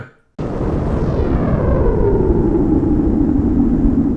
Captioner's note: air whooshing